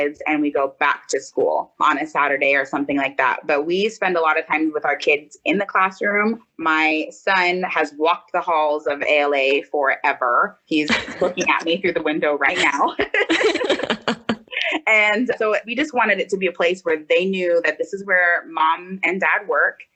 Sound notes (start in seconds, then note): 12.6 both laugh